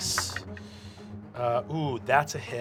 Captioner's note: rolls dice